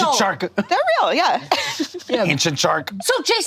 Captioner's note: laughs